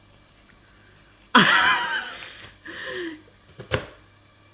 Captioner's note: laughing